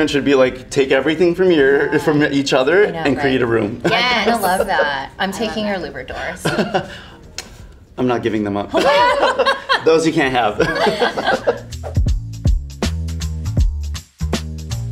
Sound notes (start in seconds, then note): 6.4 laughing; 8.7 all laughing; 12.2 upbeat music